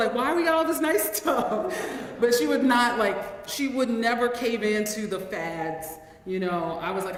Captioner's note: laughs